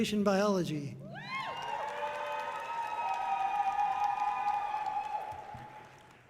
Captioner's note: audience cheering loudly